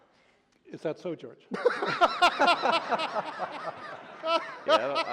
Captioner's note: laughter